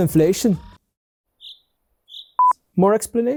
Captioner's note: birds chirping